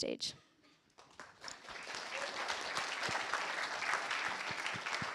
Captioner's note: applause